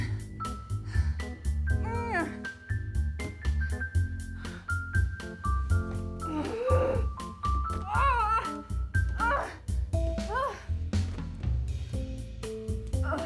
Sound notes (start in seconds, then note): 6.3 Joan grunting